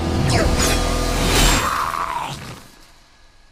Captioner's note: roar of pain